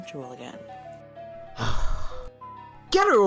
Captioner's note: sighs